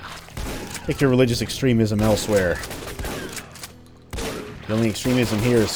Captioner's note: gunfight continues